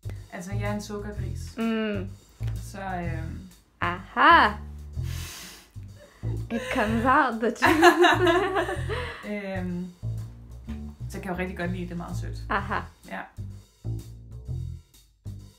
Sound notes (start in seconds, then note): 7.6 both laugh